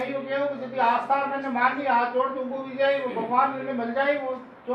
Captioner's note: foreign